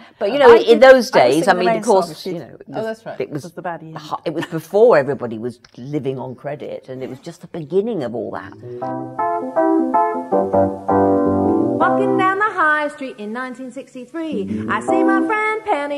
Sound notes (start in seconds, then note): 4.2 laughs; 8.8 singing